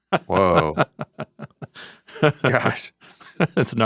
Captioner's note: laughing